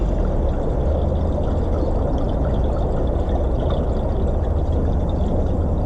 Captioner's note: sounds of water and birds singing